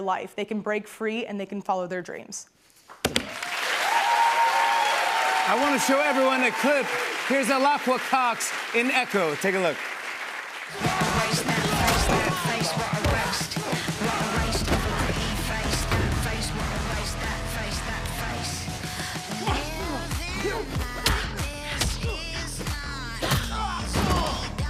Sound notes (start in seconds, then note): 2.8 cheers and applause; 10.8 grunts